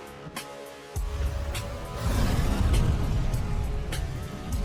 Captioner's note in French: feu sifflant